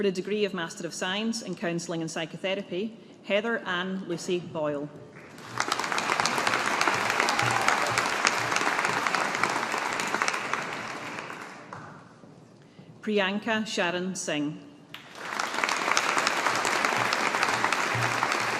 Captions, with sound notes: For the degree of Master of Science in Counselling and Psychotherapy, Heather Anne Lucy Boyle. (AUDIENCE APPLAUDING) Priyanka Charan Singh. (AUDIENCE APPLAUDING)